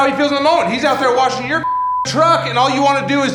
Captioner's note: beep